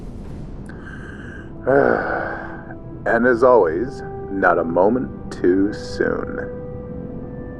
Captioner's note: sigh